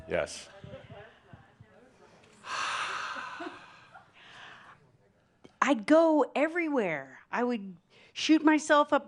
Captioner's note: sighs